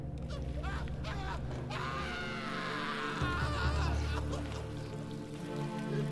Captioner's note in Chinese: 男人尖叫聲